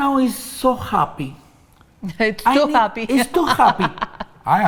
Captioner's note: laughs